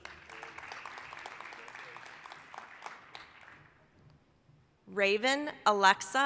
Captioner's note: applause